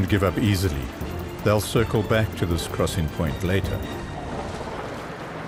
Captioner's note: animals calling